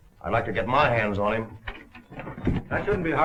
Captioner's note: door opens